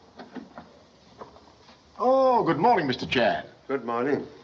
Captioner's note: none